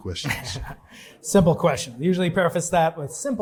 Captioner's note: chuckles